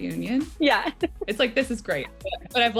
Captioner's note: laughs